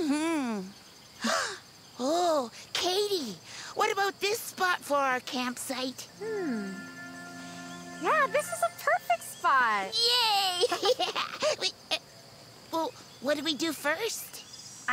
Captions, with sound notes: - Mm-hmm. (gasping) Oh Caitie, what about this spot for our campsite? - Hmm, yeah this is a perfect spot. - Yay (laughing)! Wait, well what do we do first?